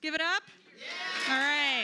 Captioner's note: cheers